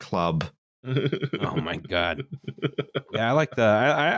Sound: chuckles

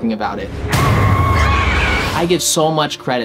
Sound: screaming

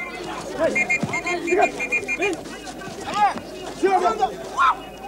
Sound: non-english speech

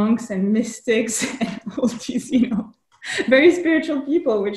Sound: laughs

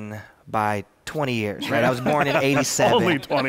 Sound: laughter

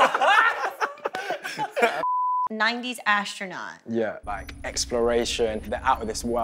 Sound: laughing

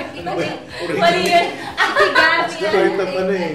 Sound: laughs

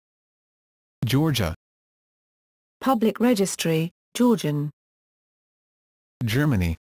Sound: Georgian

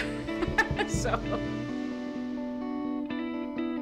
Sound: laughing

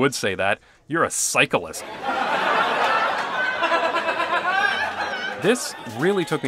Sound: Lasagna Cat laugh track

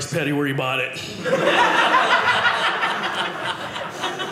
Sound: audience laughing

